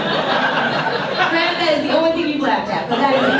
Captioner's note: audience laughs